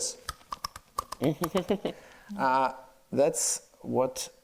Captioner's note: clapping